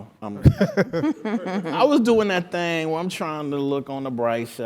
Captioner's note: laugh